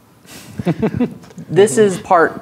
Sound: players laughing

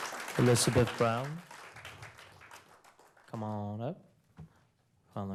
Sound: applause

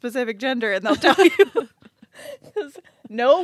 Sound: group laughs

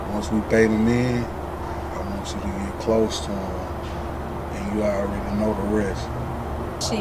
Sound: none

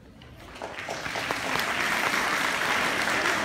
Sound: applause

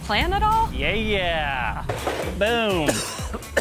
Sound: coughs

